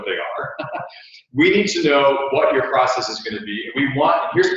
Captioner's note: laugh